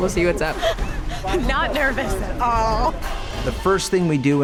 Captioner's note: laughing